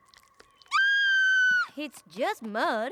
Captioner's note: screams